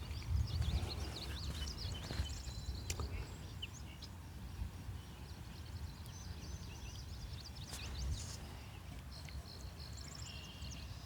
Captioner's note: birds chirping